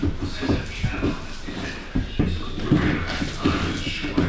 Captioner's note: footsteps